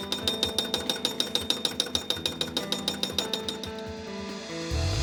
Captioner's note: machinery operating